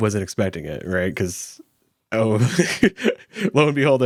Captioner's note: laughs